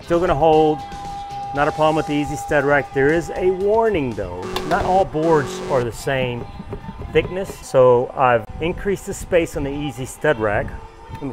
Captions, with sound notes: Still gonna hold. Not a problem with the EZStudRack. There is a warning, though. (alarm buzzing) Not all boards are the same thickness. So I've increased the space on the EZStudRack.